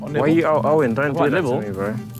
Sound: none

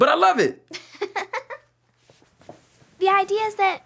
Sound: Dot giggles

